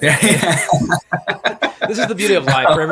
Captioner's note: both laughing